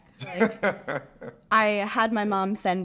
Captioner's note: laughs